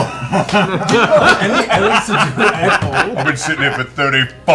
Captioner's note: laughter